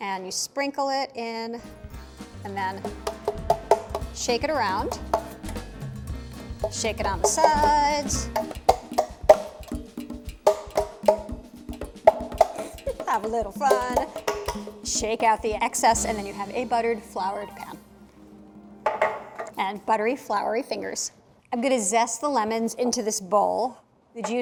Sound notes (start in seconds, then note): 8.5 tapping